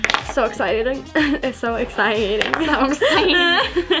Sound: laughs

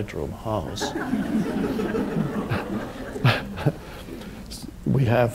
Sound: audience laughs

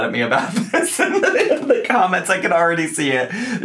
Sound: laughs

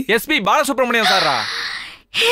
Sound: gasps

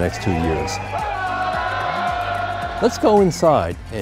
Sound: students cheering

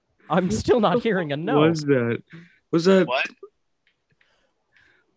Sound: murmuring

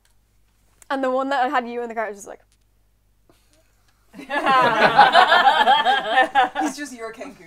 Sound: laughter

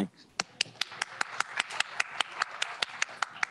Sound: applause

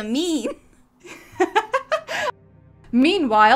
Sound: laughter

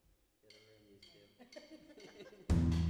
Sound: band members laughing; upbeat folk music

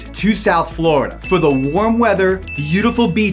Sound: graphics ding

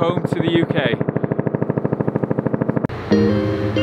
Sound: helicopter blades whirring; mellow music

